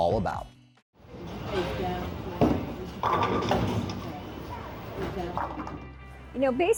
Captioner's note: bowling pins knocking